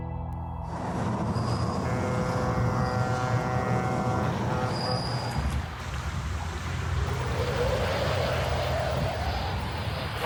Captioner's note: wind, ship horn, paddling